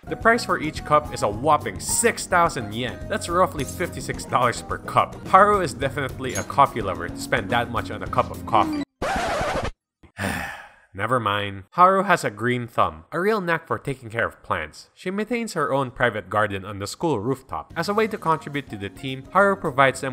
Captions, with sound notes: The price for each cup is a whopping 6000 yen! That’s roughly $56 per cup. Haru is definitely a coffee lover to spend that much on a cup of coffee. *sigh* nevermind. Haru has a green thumb, a real knack for taking care of plants. She maintains her own private garden on the school rooftop. As a way to contribute to the team, Haru provides them